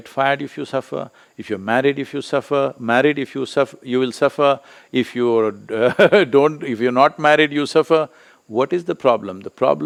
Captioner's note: laughs